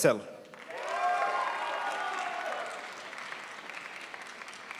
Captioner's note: crowd applauds